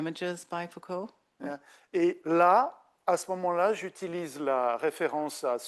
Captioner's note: speaking French